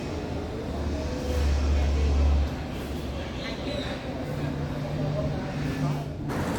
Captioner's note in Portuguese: som de carros e pássaros